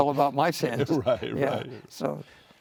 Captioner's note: laughing